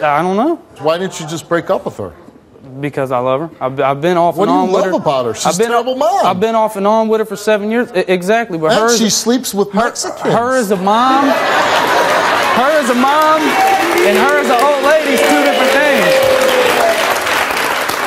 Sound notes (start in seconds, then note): 10.8 audience applause, laughs